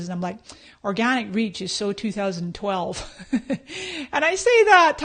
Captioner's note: laughs